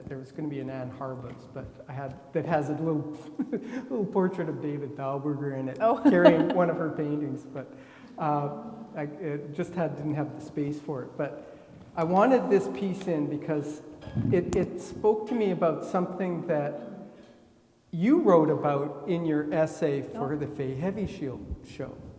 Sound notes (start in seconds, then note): 2.9 laughs; 5.8 laughing